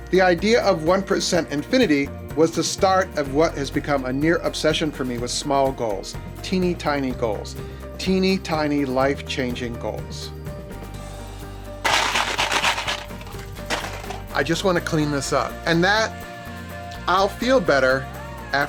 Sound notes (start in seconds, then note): 11.8 clattering